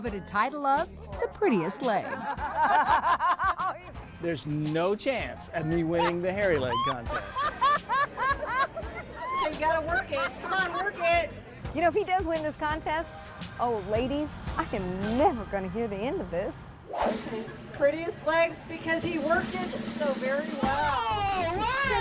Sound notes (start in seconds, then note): 5.7 laughter